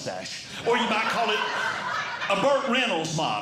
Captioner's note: audience Laughing